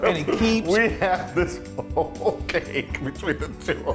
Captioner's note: laugh